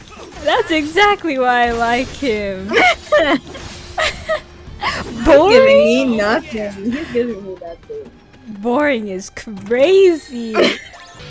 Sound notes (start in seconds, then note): 2.7 laughs; 3.9 friend laughs; 10.3 friend wheeze